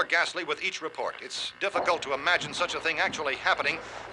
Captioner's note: thumping